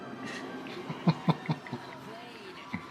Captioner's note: Roy laughs